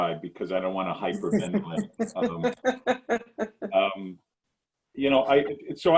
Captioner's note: laughs